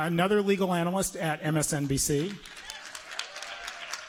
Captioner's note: applause